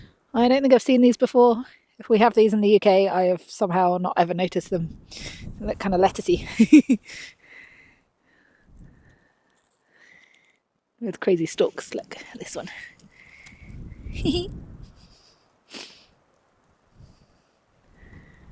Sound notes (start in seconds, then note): 14.1 chuckles